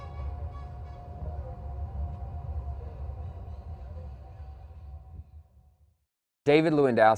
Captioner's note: sound waves resonating